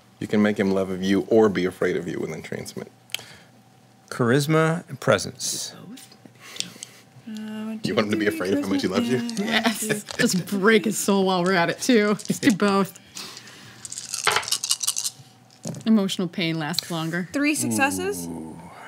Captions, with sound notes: - You can make him love of you or be afraid of you with entrancement. - Charisma and presence. - Could do both. - You want him to be afraid of how much he loves you? - Yes, just break his soul while we're at it too. Let's do both. (dice rattling) Emotional pain lasts longer. - Three successes.